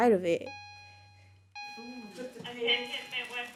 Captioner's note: bell dinging; speaks in foreign language